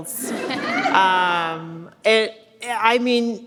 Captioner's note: audience laughs